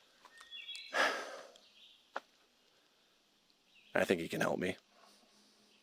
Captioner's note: sighs